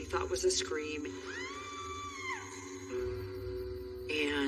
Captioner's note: screaming